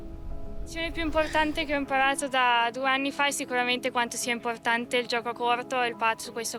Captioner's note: woman speaking in foreign language